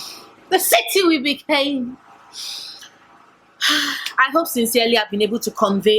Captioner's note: sigh